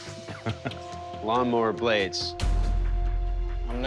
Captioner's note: chuckles